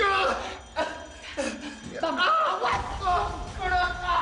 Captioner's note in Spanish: Quejidos